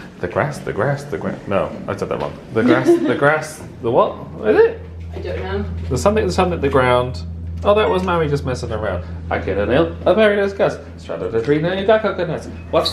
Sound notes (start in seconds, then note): 2.6 laughs